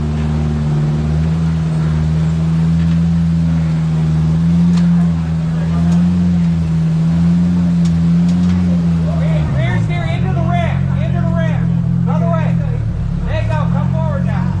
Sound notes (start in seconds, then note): 8.6 crowd chattering